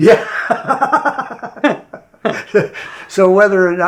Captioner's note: laughs